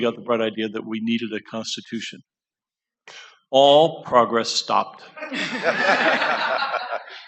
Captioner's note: laughter